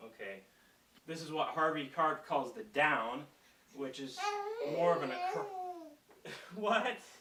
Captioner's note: baby babbling